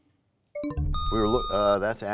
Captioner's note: bell chimes, time expires